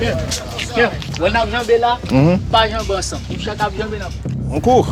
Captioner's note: French spoken audio